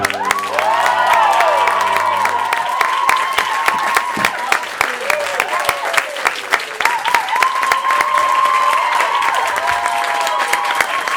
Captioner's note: applause